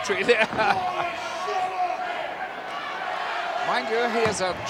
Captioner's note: laugh